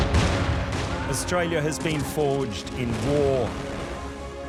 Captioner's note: gun shots; ship explodes